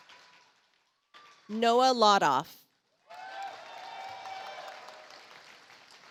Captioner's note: audience applauds